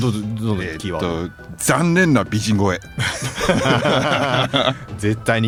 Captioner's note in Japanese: 笑い